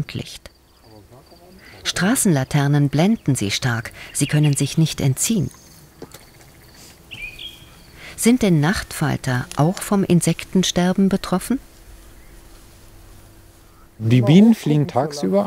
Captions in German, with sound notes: Straßenlaternen blenden sie stark, sie können sich nicht entziehen. (Grillenzirpen, Vogelzwitschern) Sind denn Nachtfalter auch vom Insektensterben betroffen? Die Bienen fliegen tagsüber,